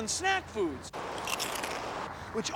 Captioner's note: crunches